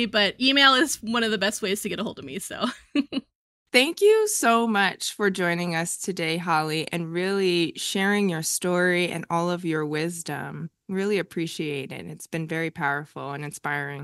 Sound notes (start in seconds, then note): 2.6 chuckles